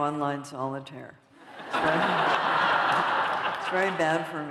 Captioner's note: laughter